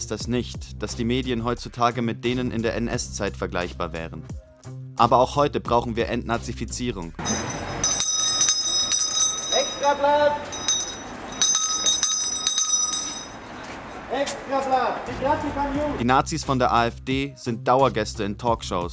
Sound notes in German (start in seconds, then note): 7.2 Glocken leuten